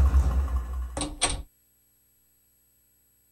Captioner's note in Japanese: 扉の開閉音：カチャ